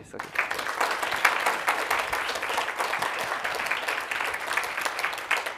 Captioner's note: applause